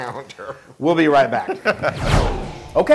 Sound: laugh

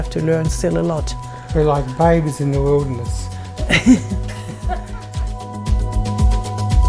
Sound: laughs

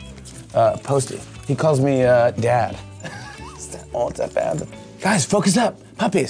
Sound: laughs

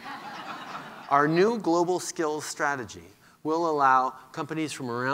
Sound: laughter

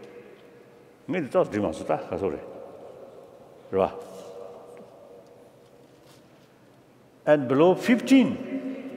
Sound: speaking foreign language

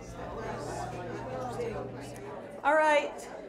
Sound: people chattering

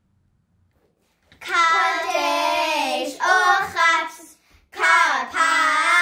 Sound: chanting in foreign language

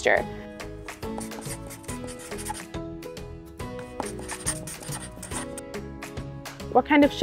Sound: marker scratching on paper sounds

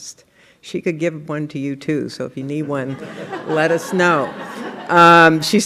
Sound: laughter

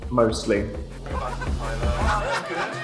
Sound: dozens of Videos Playing

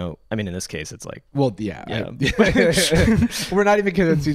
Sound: laughter

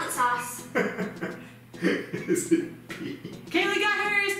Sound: laughing

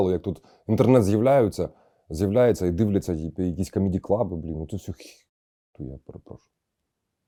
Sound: Russian

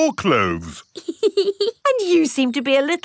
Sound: laughs

